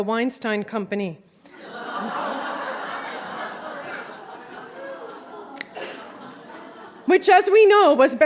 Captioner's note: laughter